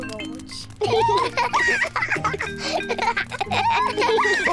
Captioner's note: both giggle